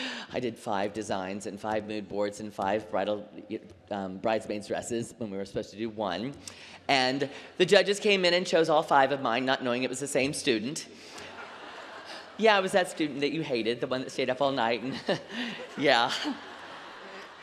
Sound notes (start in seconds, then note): 11.2 laughter; 14.8 laughter